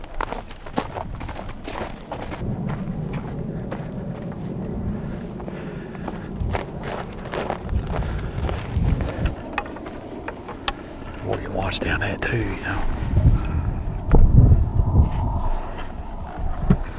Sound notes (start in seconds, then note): 0.2 footsteps; 3.2 wind whistling; 6.8 footsteps; 14.1 wind whistling